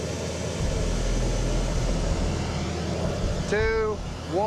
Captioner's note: burner whooshing